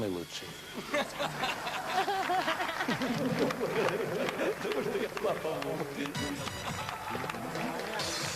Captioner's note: laughter, clapping